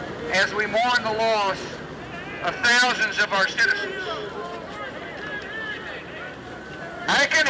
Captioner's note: cheers and applause